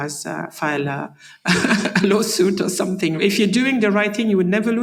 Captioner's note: laugh